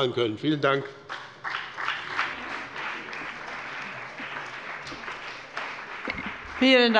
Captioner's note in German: Beifall bei dem BÜNDNIS 90/DIE GRÜNEN und der CDU